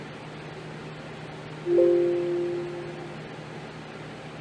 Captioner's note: computer sound